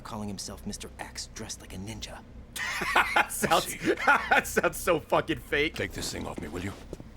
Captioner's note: laughs